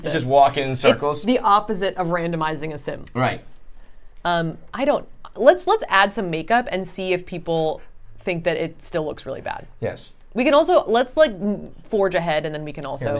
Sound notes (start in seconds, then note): none